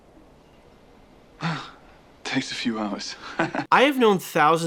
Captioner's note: awkward chuckle